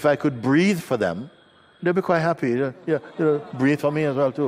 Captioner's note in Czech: smích